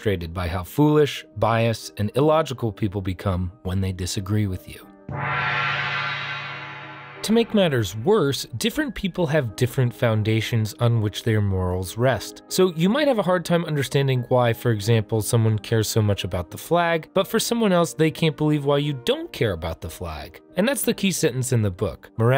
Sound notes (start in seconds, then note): 5.1 gong rings